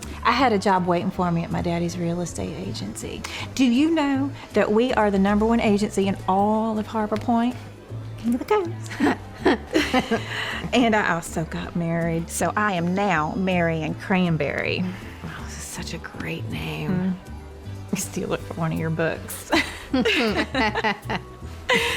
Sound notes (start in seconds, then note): 8.9 chuckling; 14.9 says sarcastically; 19.5 both chuckling